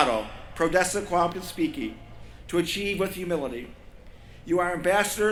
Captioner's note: non-english speech